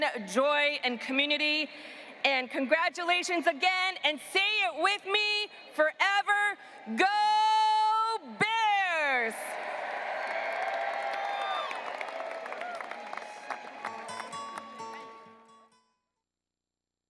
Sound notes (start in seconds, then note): 9.4 graduates applauding and cheering; 13.7 soft music